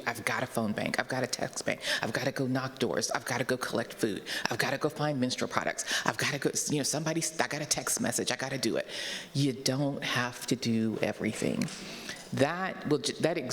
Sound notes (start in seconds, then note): none